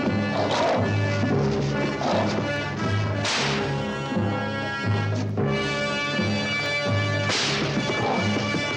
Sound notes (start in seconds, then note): 3.2 whip cracking